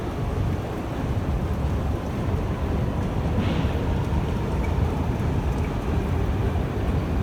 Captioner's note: arrival of train at the station